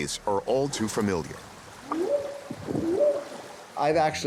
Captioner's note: whooping sound